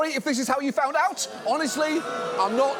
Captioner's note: audience booing